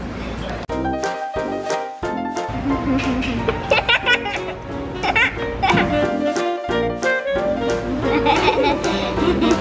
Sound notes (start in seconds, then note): 0.3 cheerful music; 2.6 laughing